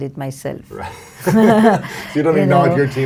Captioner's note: both laugh